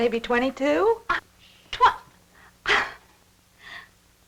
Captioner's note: stammering